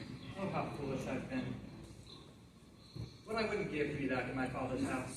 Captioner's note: none